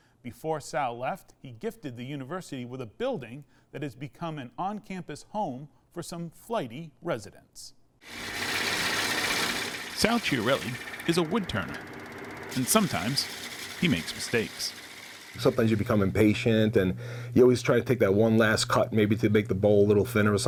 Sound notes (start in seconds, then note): 8.1 saw buzzing